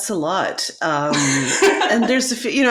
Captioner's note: laughs